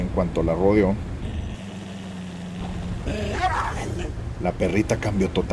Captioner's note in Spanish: Sonido de perro gruñendo y ladrando